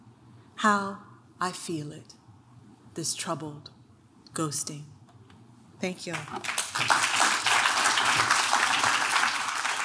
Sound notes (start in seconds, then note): 6.1 clapping